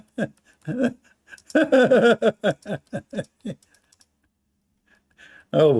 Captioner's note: Ketawa